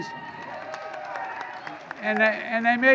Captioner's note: applause